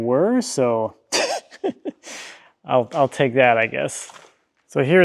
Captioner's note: laughs